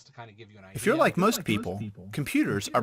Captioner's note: voice On Computer